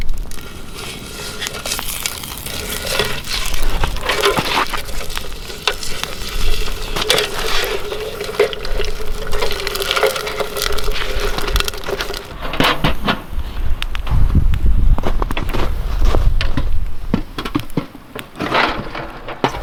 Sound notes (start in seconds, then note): 2.4 fire crackling; 10.6 metal rattling; 15.7 snow crunching